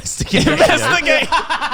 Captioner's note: laughing